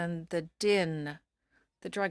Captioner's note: speaking in French